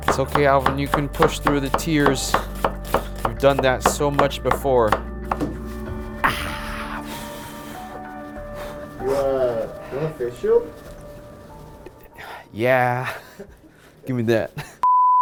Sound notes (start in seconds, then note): 5.8 sighing